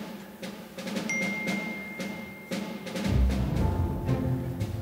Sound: phone dings

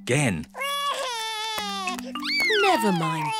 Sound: sobs

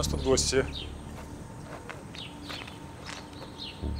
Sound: birds chirping; suspenseful music

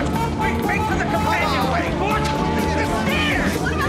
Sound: all shout at once

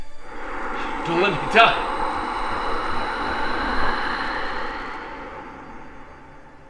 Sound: whirring

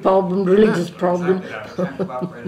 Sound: laughs

